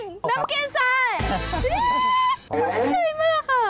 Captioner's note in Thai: เสียงร้อง